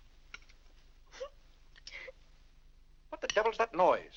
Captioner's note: Annie weeps